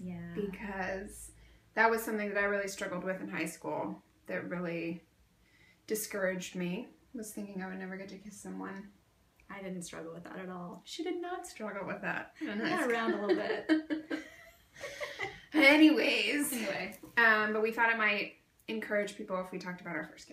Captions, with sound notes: Yeah.. Because that was something that I really struggled with in high school that really.. discouraged me, was thinking that I'd never get to kiss someone. I didn't struggle with that at all. She did not struggle with that. I got around a little bit. (Laughs) Anyways... We thought it might encourage people if we talked about our first kiss.